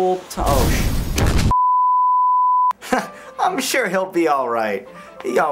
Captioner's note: boom